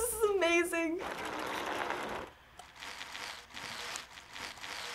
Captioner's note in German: Fahrradräder rollen